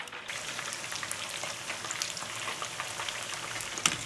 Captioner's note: oil crackling